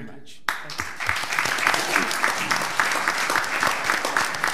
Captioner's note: all applauding